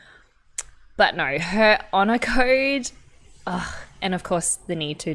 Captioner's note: sighs